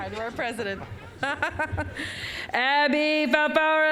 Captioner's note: laughing